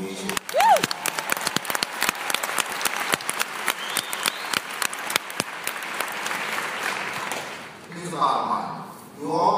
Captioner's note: applause